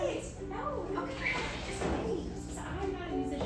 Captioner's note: chatter